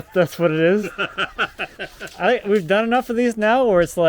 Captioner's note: laughing